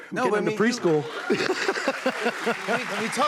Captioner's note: cheers and applause